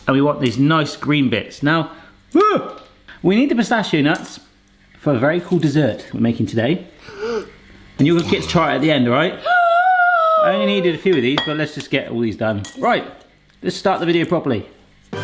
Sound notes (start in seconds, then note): 7.0 gasps